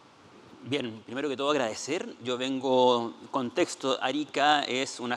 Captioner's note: speaking Spanish